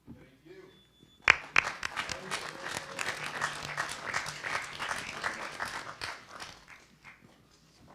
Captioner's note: audience applause